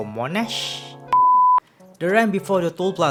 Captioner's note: beep